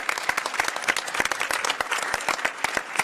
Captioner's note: applause